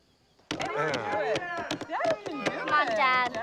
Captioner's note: cheers